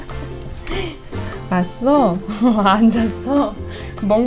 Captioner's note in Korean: 웃음; 웃음